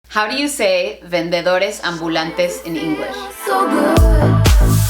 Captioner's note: speaks Spanish